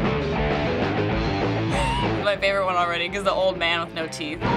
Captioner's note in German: kichert